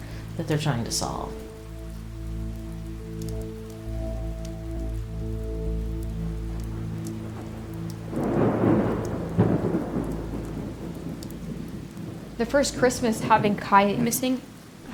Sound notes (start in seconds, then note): 8.4 thunder crashing